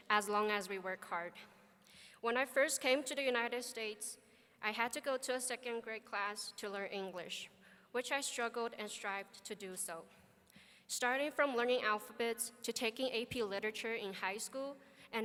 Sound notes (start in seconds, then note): none